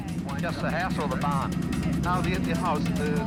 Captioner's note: man on radio